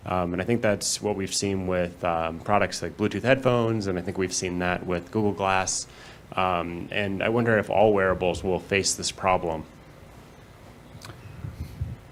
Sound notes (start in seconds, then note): none